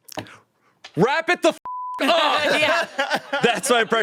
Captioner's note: beep